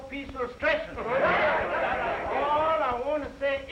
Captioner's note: all chattering